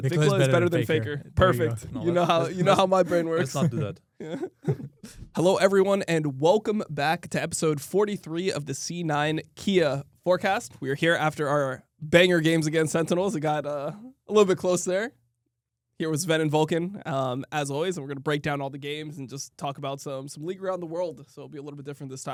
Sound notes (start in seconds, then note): 5.0 laughs